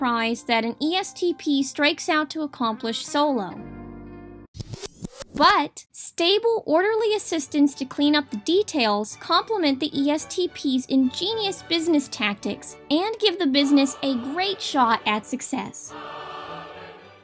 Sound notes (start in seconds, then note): 4.6 tape Rewinding